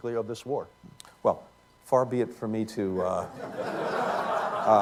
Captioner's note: laughter